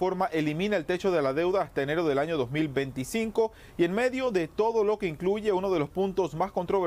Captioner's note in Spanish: HABLA EN INGLéS